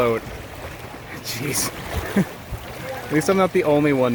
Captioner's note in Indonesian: tertawa